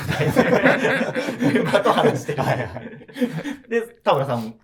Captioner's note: laughing